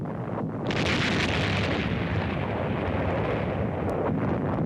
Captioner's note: artillery firing